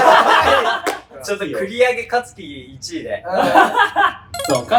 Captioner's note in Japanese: 爆笑の声; 笑い声